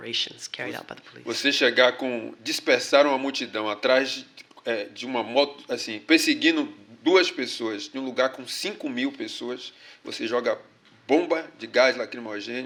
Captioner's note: speaking portuguese